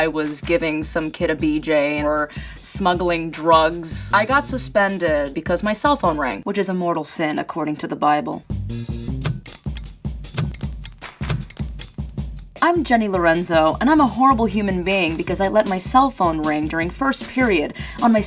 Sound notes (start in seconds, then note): 9.4 drumming beat; 10.2 camera flashing